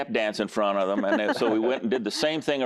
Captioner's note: laughter